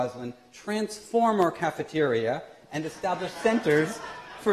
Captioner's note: laughter